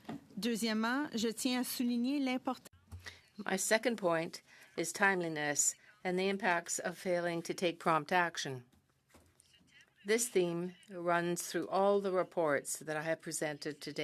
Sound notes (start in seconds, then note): 5.8 speaking in French